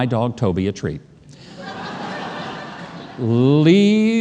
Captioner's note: audience laughs